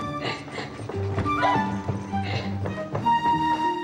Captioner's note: laughing